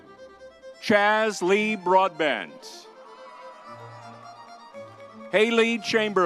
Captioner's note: crowd cheering